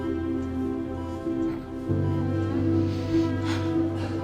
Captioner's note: sobs